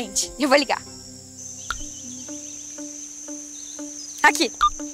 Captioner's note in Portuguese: Ruídos de mata